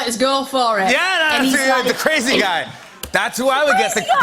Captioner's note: laughter